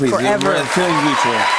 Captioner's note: cheers and applause